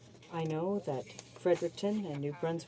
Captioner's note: speaking in french